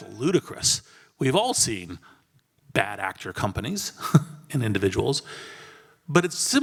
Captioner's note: laugh